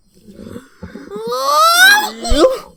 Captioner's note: yawns